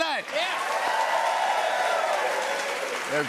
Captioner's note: cheers and applause